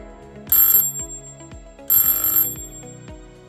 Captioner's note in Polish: dźwięk dzwonka